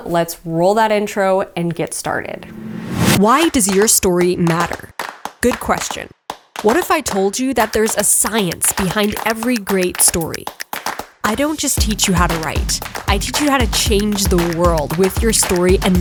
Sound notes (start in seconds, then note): 2.3 text whooshes; 3.1 energetic rhythmic music